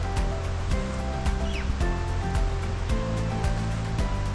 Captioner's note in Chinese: 斯文豪氏赤蛙叫聲